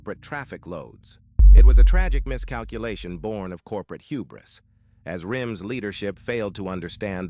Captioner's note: SFX: deep cinematic impact